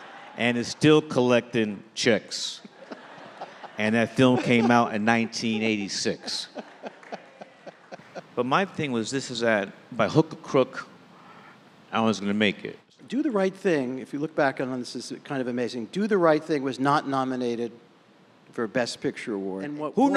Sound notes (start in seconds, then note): 7.0 host laughing